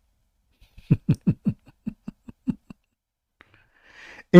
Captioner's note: Ketawa